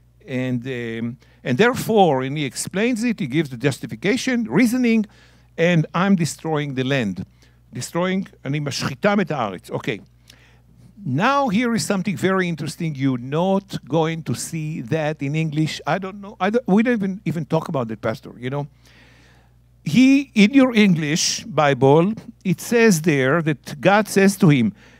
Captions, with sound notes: And therefore," and he explains it. He gives justification, reasoning, "and I'm destroying the land. Destroying, [speaking in Hebrew]." Okay. Now here is something very interesting you're not going to see that in English. I don't know. We didn't even talk about that, Pastor, you know? He--in your English Bible, it says there that God says to him,